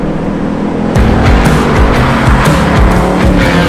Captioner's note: revving